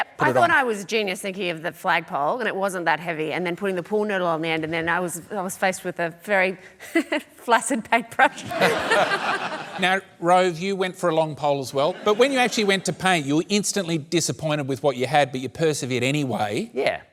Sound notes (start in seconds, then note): 7.0 giggles; 8.3 she laughs